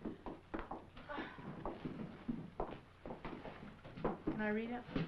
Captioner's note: sighing